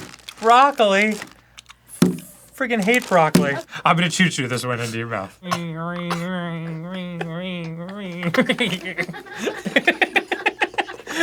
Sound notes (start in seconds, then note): 5.2 airplane noises; 9.3 laughing